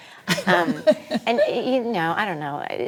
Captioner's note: laughing